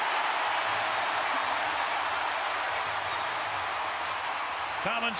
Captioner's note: crowd cheering